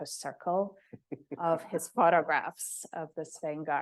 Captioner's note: chuckling